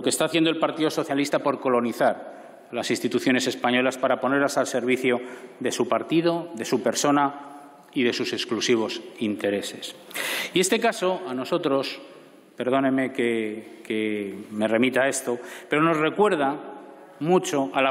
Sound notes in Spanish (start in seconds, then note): none